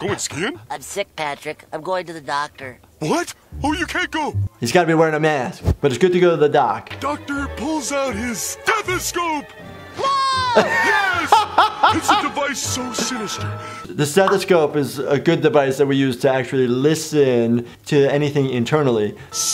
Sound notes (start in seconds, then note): 10.5 laughter